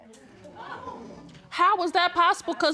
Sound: audience exclaims

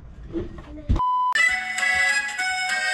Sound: tone beeps; lively music

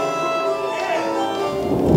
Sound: thunder rumbles

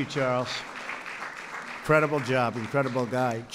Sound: applause

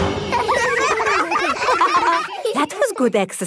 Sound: all giggling

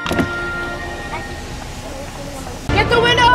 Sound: window closing

